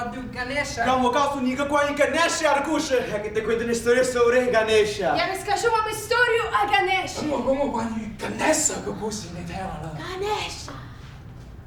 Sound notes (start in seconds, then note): 0.2 speaking in a foreign language